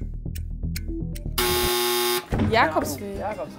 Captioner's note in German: Buzzer